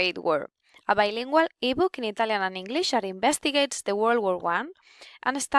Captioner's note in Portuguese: italiano e inglês